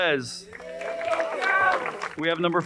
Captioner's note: crowd applauding and cheering